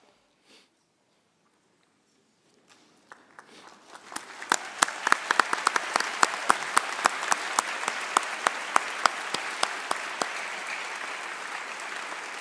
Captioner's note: applause